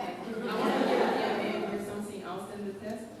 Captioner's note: laughter